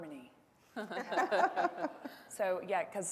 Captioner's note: panel laughing